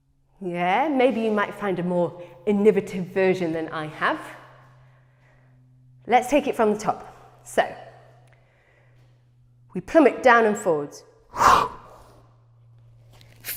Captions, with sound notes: Yeah? Maybe you might find a more innovative version than I have. Let's take it from the top, so... We plummet down and forwards [SHARP EXHALE]